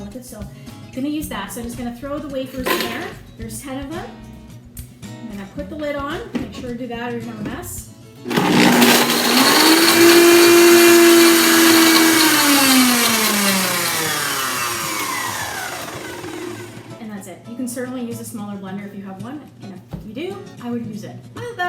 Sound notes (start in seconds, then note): 8.2 blender rumbling